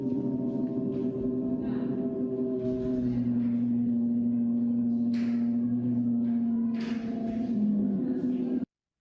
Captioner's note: bear roaring